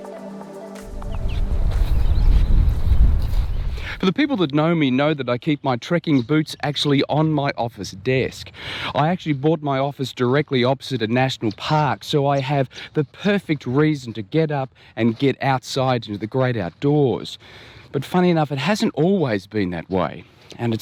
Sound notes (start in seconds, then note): 0.8 birds chirping